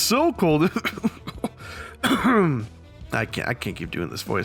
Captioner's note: clearing throat